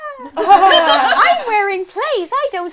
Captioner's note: laughter